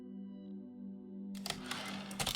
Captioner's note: typewriter return slide